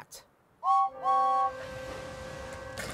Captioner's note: james whistles